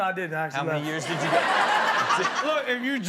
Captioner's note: audience laughs